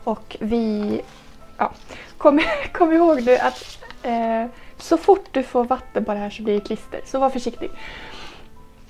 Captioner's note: giggles